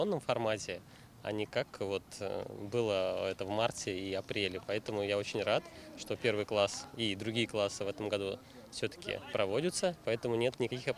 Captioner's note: speaking Foreign Language